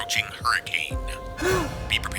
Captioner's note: gasps